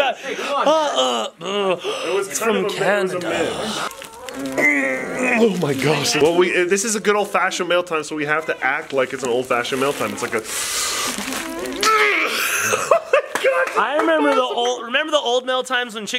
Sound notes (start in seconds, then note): 12.7 laughing